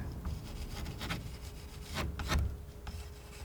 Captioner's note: scratching